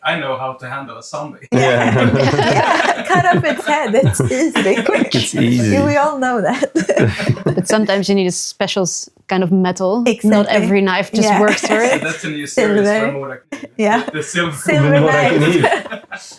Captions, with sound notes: I know how to handle a zombie. (laughing) Cut off its head, it's easy, big, quick. It's easy. I don't know that. (laughing) But sometimes you need a special kind of metal. Exactly. Not every knife just works for it. That's in the series, I don't know what I can do. Yeah. The silver knife. The silver knife. (laughing)